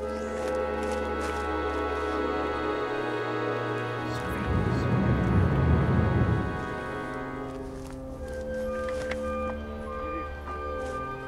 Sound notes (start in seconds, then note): 4.4 whispered Celtic voices